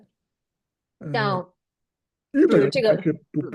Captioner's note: nonverbal grunt as interjection